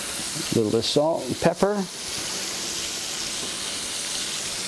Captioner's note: sizzling continues